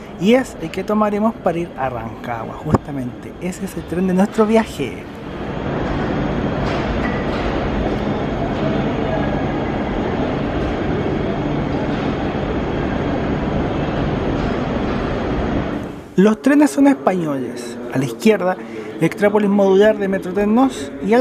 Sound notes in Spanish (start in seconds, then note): 5.5 sonido del tren UT440 entrando a la estación